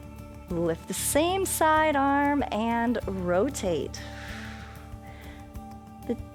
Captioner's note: exhales